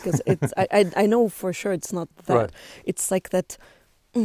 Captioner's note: laughs